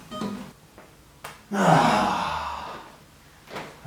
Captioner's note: sighs